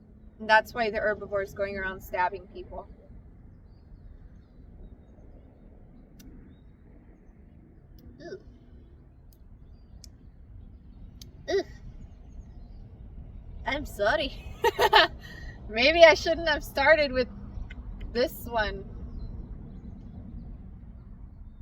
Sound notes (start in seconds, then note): 7.8 smacks lips; 14.4 laughs